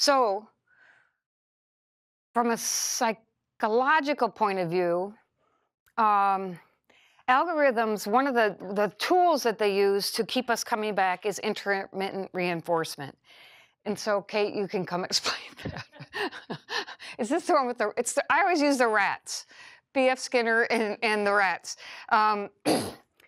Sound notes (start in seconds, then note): 15.6 laughter